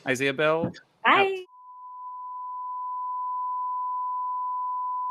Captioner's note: digital tone